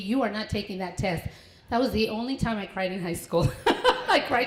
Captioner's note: laughter